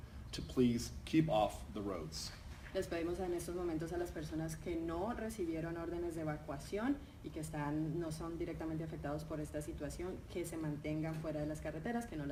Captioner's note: speaking in Spanish